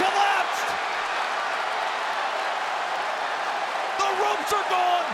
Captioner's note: crowd cheers